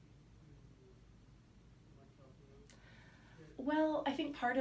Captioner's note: silence